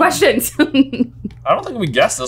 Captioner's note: laughing amusingly